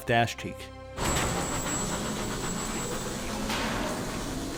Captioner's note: power being turned on